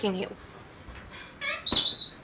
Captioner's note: kitty squawks